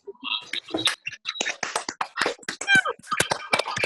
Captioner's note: claps